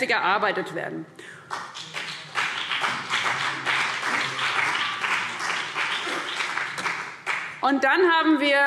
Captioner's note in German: Beifall BÜNDNIS 90/DIE GRÜNEN und vereinzelt CDU